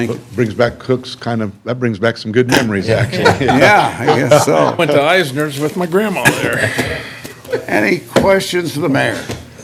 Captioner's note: laughter